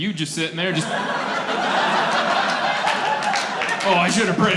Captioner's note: laughter